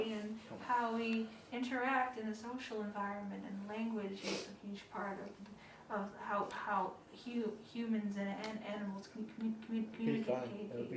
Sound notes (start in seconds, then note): 4.2 sniffling